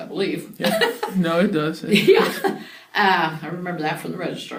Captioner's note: laughs